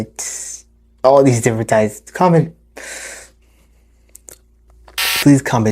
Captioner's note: electrical scramble sound